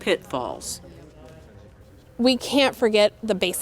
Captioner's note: participants chattering